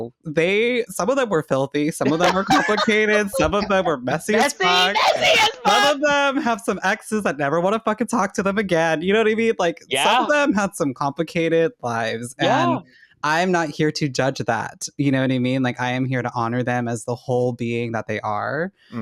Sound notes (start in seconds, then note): 2.0 cackling